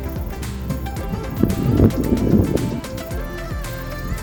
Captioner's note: strong wind noise